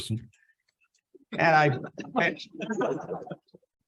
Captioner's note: laughs